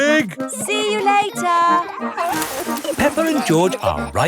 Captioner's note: peppa and george laughing